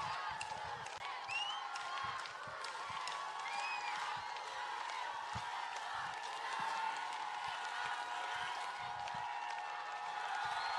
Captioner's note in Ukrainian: Оплески